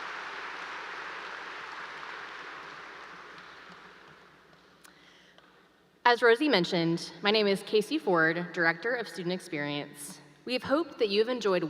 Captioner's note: applause